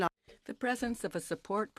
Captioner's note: speaking French